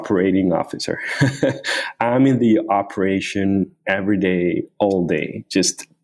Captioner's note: laughs